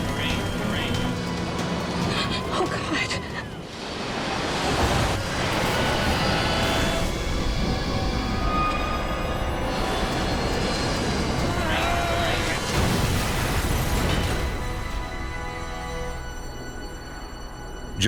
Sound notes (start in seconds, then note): 0.2 automated Voice; 3.7 plane screams; 6.7 suspenseful music; 12.6 loud explosion; 15.5 suspenseful music